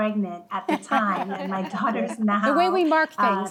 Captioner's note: attendees laughing